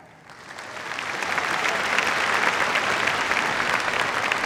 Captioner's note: applause